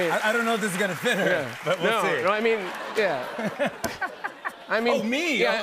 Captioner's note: laughter